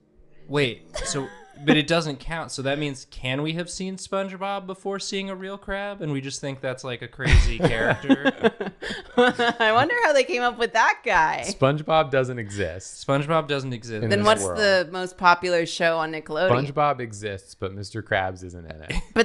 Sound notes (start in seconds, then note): 7.3 laughs, sensing a bit™ forming